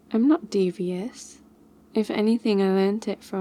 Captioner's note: none